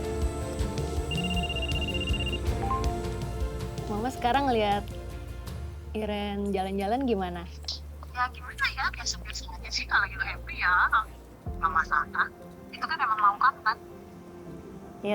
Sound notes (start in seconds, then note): 1.0 phone ringing